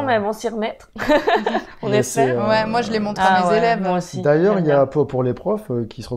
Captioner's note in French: rire